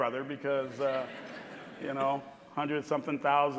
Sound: audience laughing

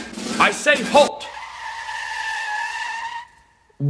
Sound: elephants screech to a halt

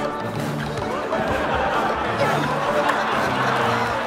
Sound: laughter

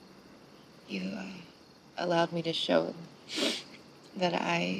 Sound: sniffs

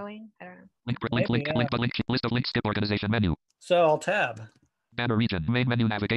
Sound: screen reader reads fast

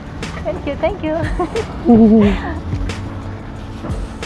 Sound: laughing

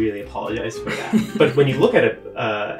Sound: laughing

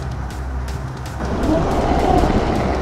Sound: CODY roars

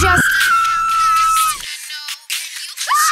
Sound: Velma screams

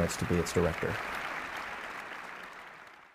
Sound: applause

